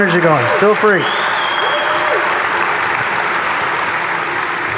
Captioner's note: audience applauding